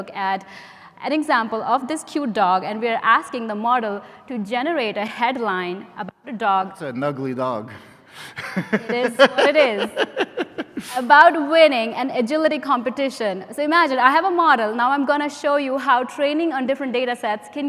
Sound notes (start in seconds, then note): 8.3 laughs